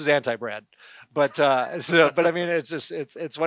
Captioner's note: laughter